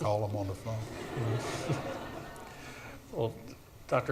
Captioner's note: audience laughs